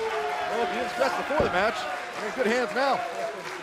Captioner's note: crowd chatter